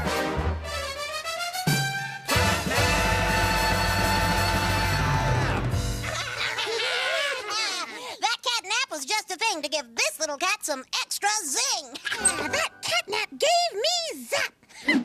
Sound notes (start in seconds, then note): 6.0 all laughing